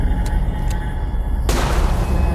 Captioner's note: gun fires